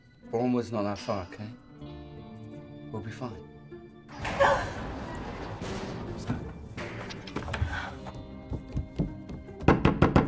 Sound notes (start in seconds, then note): 4.1 Eloise gasping; 4.2 loud crash